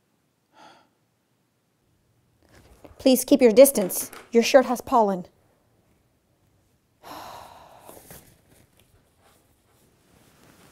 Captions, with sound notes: Please keep your distance, your shirt has pollen. [sighs]